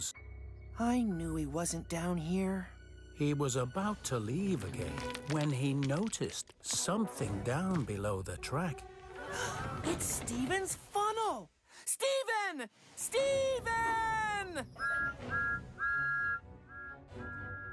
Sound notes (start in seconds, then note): 9.1 gasps; 14.8 toot-Toot-Toot!